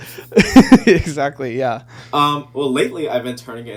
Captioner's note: laughing